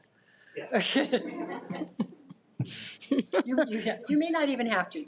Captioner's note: audience laughs